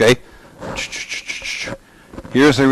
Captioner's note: imitates whirring